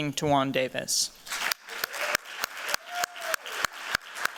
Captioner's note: cheeers and applause